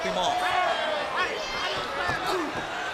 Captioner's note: crowd chatter